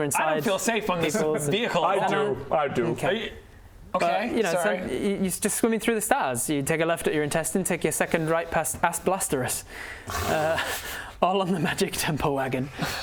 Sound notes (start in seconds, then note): 10.1 groan